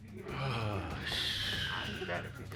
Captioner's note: sighs